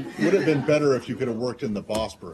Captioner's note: laughter